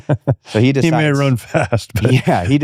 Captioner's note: laughing